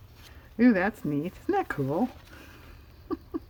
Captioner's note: laughs